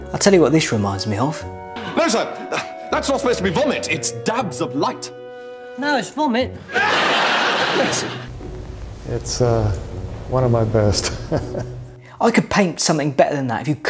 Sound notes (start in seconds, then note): 2.2 chuckles; 6.6 audience laughs; 11.0 chuckles